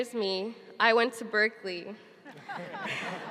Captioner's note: laughing